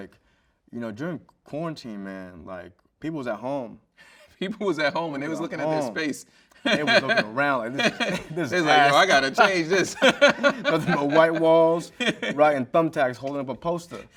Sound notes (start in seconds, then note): 6.6 chuckles; 10.2 laughs